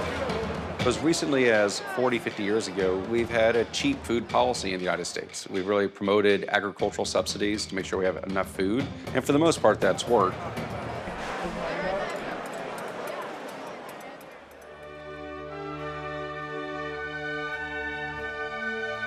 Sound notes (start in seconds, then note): 9.4 mess hall chatter; 14.2 majestic music